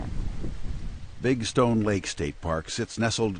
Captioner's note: voiceover